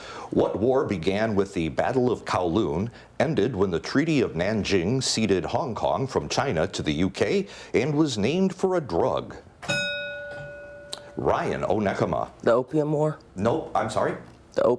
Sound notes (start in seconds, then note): 9.6 bell ringing